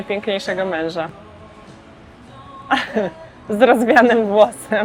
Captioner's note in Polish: śmiech